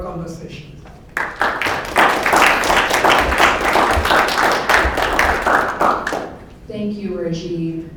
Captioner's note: applause